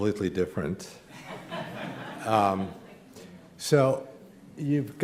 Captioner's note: laughter